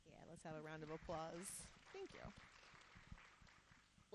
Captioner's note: audience applauding